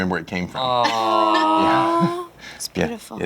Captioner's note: sighing